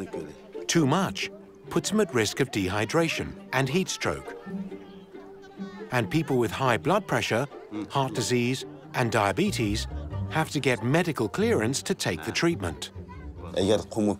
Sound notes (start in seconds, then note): 0.6 speaking Uyghur